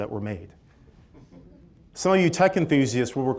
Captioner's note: chuckling